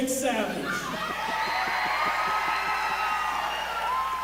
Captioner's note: crowd cheers